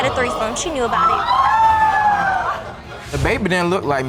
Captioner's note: audience gasp and exclaim